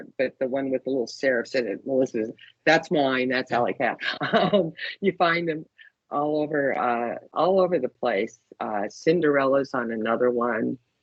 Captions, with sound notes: but the one with the little serifs in it, Melissa’s. That’s mine. That’s alley cat. [CHUCKLING] You find them all over, all over the place. “Cinderella” is on another one.